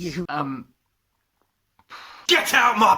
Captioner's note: sigh